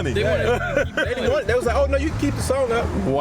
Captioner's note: laughs